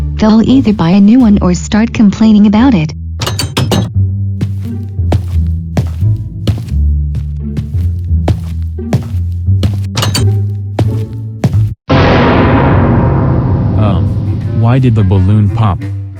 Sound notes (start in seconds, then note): 3.2 door closes; 3.2 door opens; 4.4 footsteps; 9.7 door opens; 10.5 footsteps